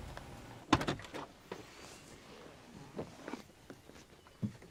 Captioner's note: birds chirping